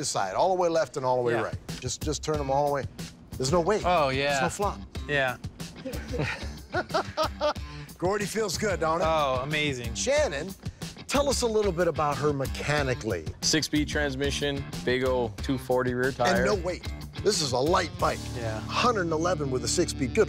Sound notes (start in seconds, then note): 5.8 laughter